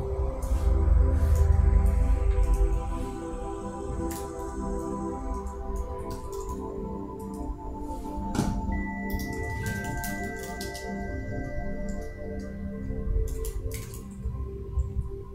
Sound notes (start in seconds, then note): 5.5 mouse clicking; 10.8 beautiful, soothing, spacey music